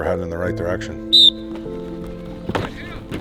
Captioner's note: whistle